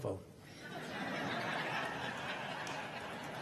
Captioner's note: crowd laughing